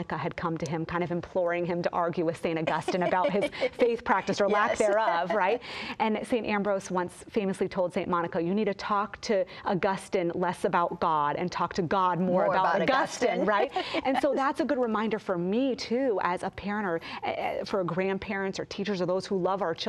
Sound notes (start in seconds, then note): 14.1 laughs